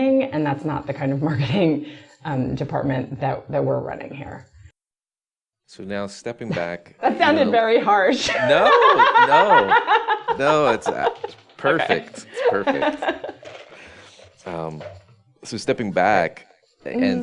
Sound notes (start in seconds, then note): 8.3 laughs